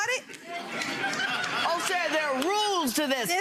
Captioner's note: audience laughs